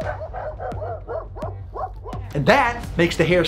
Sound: dog barking

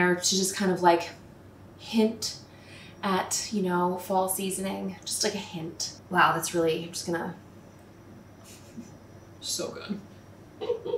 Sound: chuckle

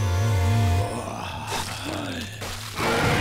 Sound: grunting; screeching

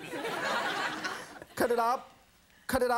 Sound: audience laughs

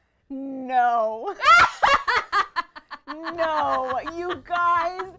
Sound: laughter

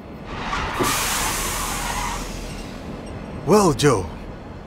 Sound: brakes screeching

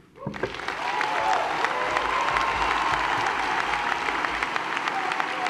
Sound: applause

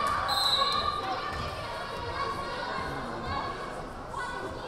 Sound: whistle blaring

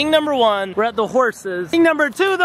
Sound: none

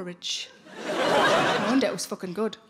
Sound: laughing

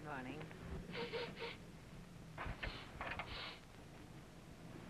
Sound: sniffing

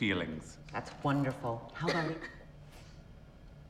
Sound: coughs

